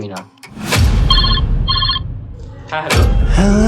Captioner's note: phone rings